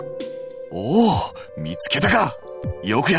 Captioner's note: impressed hum